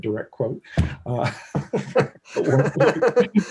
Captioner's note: laughing